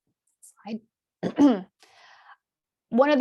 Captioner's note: clears throat